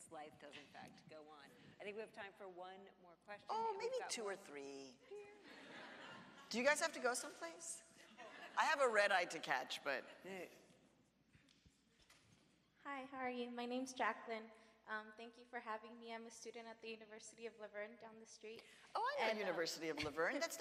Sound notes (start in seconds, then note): 5.4 audience laughs